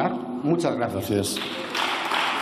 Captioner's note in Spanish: Aplausos